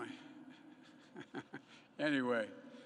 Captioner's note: laughs